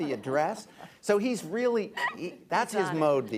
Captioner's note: laughter